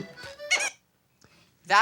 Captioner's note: squeak